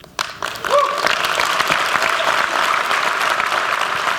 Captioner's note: applause